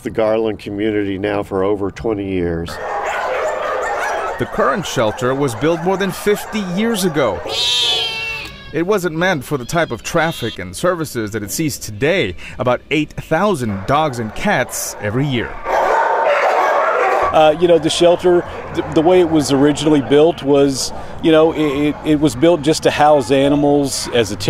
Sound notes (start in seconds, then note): 2.7 barking; 7.4 meow; 15.6 barking